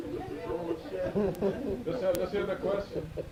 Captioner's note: laughter